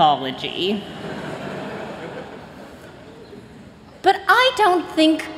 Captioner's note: laughter